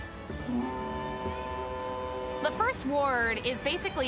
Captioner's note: horn blowing